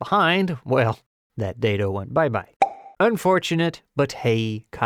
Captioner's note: pop